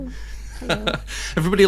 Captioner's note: laughing